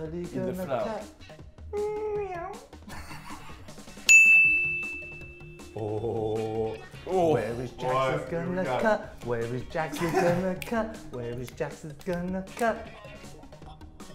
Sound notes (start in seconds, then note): 2.0 meow; 4.0 ding